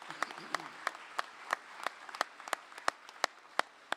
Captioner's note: applause